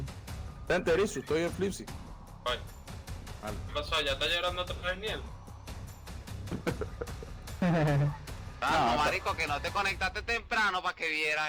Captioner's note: laughs